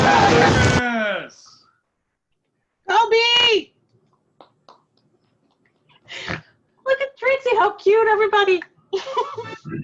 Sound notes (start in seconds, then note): 2.1 cheering